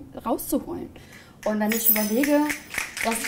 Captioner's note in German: Publikum schnipst